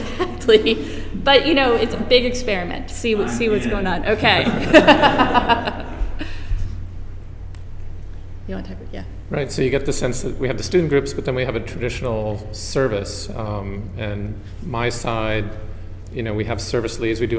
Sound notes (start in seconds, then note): 4.2 laughter